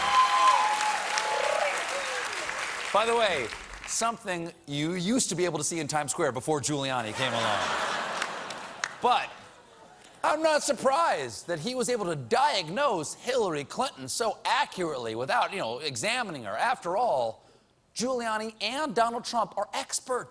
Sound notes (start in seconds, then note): 2.1 laughter